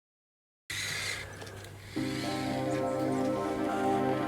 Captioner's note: motor buzzing